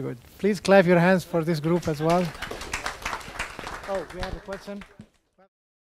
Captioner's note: audience applause